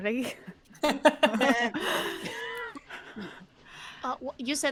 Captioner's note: all laughing